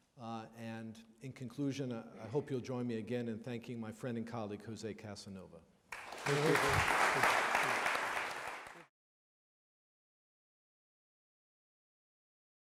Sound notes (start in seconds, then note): 5.9 audience applaudes